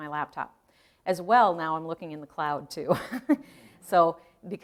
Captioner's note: chuckling